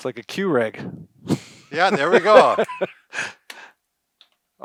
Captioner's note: laughs